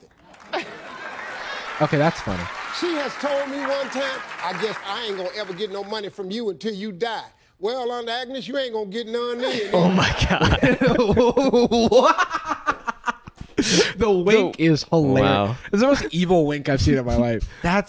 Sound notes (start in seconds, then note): 0.2 crowd laughing; 9.4 laughs